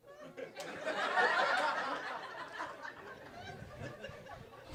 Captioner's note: audience laughing